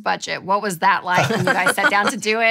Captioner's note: laughing